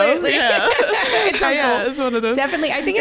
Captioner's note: laughing